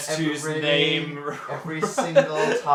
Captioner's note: laughs